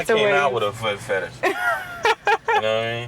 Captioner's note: laughs